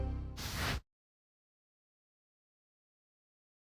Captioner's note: whooshing